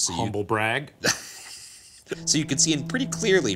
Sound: laughing

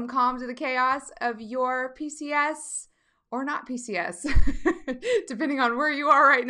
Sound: laughing

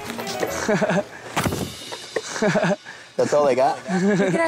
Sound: laughing

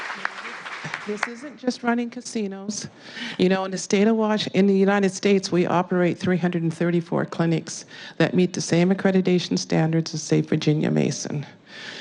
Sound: applause

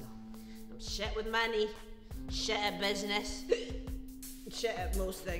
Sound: hiccuping

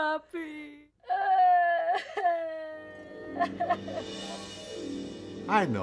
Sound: Veronica cries

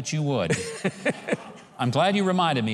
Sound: laughing

